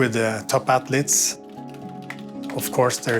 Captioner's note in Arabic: نقر على لوحة المفاتيح